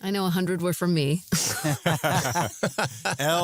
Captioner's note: laughter